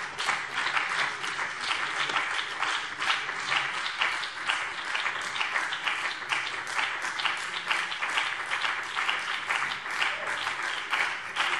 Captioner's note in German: Anhaltender Beifall BÜNDNIS 90/DIE GRÜNEN - Vereinzelter Beifall CDU